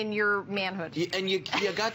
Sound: laughter

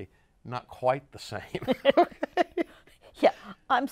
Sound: laughs

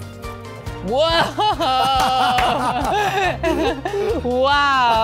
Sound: both laughing

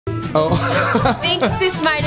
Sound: laughs

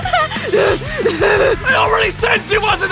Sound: heavy perverted laugh; laughs

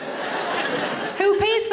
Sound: audience laughs

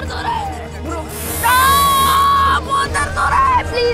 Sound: screams

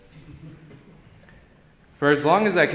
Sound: audience giggling

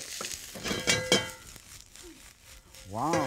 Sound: wok rattles

